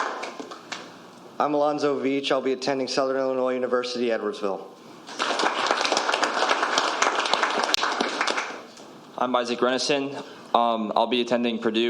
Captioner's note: applause